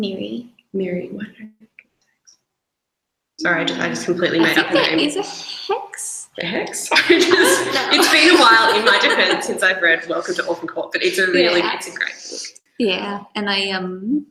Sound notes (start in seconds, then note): 6.8 both laugh